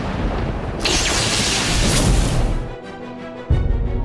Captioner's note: loud explosion; lightning sizzles; adventurous music